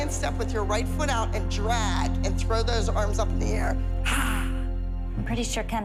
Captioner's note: exhales